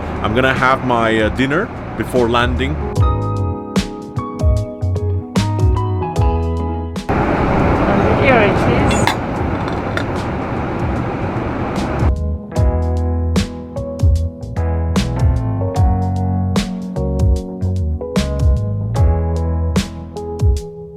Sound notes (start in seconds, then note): 7.1 engine rumbling; 13.0 chilled music